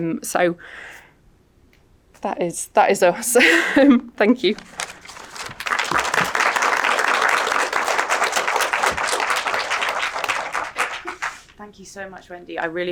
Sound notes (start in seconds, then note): 4.6 audience clapping